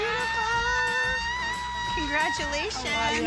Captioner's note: screaming loudly